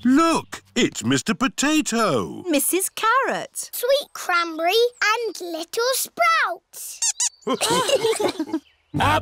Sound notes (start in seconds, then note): 7.0 squeaks; 7.4 laughter